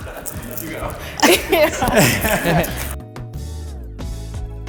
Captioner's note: all laughing; gentle music